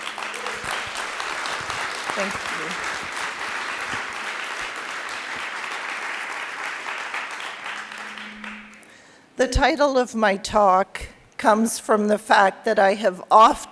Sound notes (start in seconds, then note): 0.1 applause